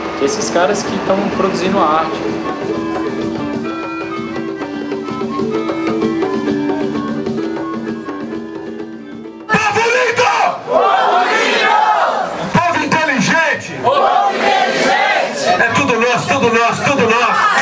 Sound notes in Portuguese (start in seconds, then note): 3.1 Trilha continua; 9.3 Grita